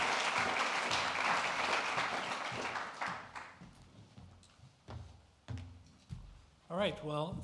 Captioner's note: applause